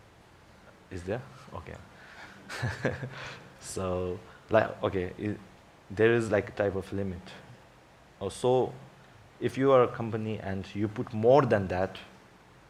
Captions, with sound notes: Is there? Okay. (laughs) Okay, there is a type of limit. So if you are a company and you put more than that limit